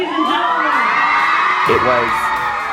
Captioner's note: cheers